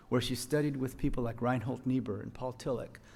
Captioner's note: none